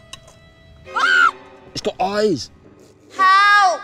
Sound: screams

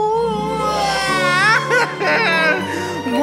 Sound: crying

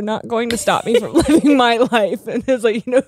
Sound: both laughing

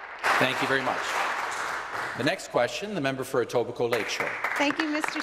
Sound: some Applause

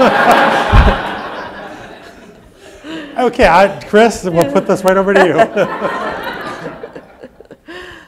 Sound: laughter

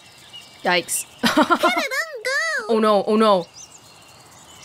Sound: chuckles

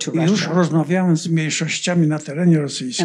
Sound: foreign language

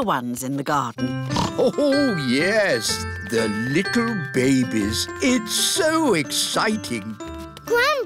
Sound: snorts

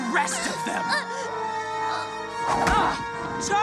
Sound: Charlie whimpers; Vaggie grunts

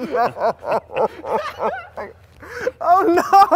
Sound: guys laughing

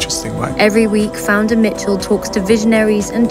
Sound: woman's Voice

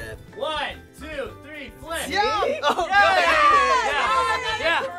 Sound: all cheering

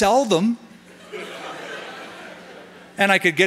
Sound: laughter

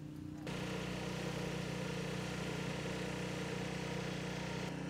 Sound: machine whirs

